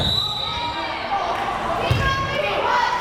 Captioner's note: whistle blares